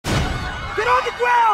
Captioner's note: screams